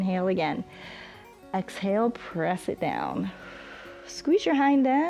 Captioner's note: inhales; exhales